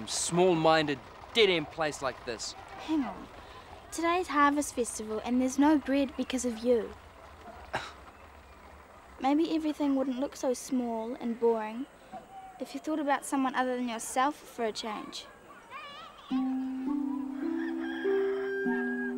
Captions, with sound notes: small minded, dead end place like this? - Hang on, today's harvest festival and there's no bread because of you. (scoffing) Maybe everything wouldn't look so small and boring if you thought about someone other than yourself for a change. (peaceful music)